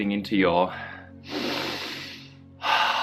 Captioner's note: takes deep breath